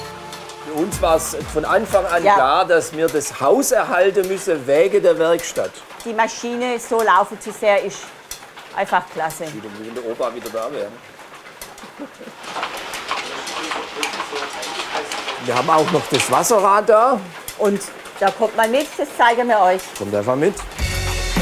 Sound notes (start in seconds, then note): 12.7 clattering